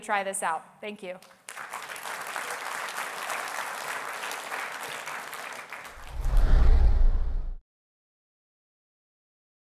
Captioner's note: applause